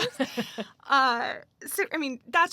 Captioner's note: laughs